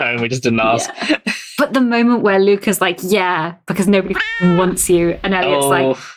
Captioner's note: laughs